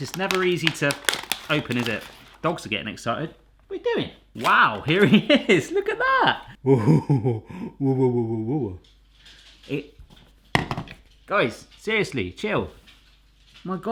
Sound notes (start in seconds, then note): 6.4 laughs; 9.0 dogs scuffling